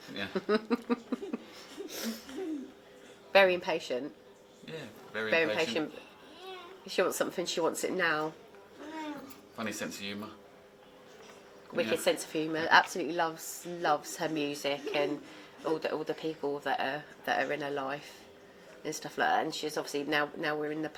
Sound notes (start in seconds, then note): 2.0 laughing